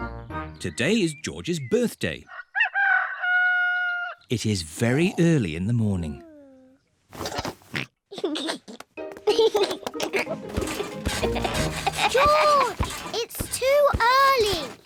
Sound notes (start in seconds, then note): 2.3 roster crows; 7.2 oinks and giggles; 10.5 continues to laugh